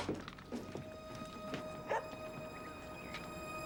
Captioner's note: dog barking